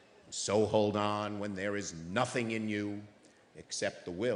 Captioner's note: none